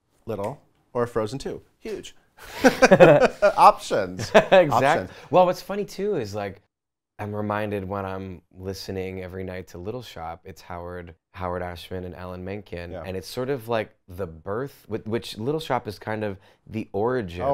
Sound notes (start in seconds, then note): 2.4 laughs